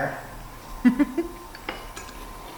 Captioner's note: giggles